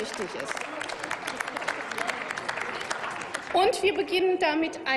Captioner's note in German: Applaus